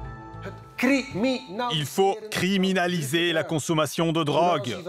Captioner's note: Dutch spoken audio